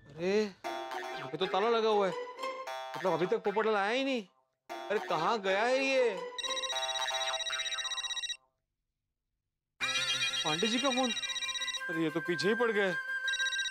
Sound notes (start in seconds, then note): 6.3 phone ringing